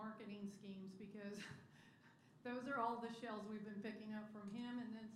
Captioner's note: laughter